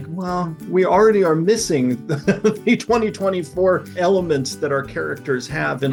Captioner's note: laughs